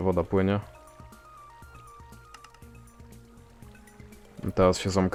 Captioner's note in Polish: odgłosy płynącej wody